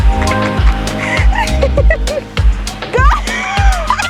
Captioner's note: laughs